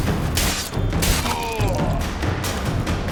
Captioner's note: groan